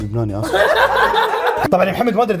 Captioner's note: laughs